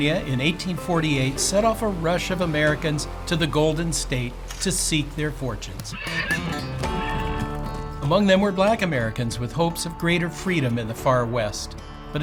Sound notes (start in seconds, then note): 5.8 horse whinnies; 5.9 calm music